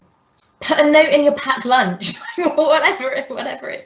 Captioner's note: laughing